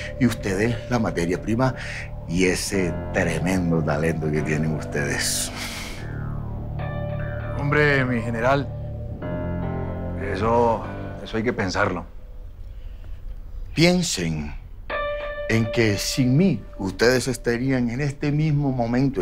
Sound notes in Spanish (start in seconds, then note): none